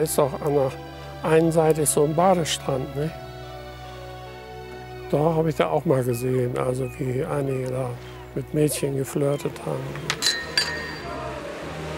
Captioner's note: sounds of women laughing and glasses clinking